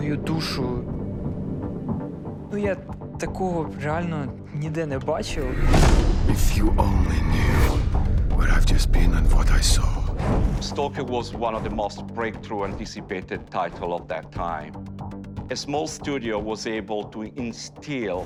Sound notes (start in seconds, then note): 10.2 speaking English